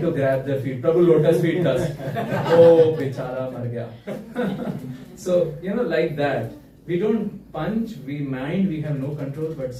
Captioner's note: laughter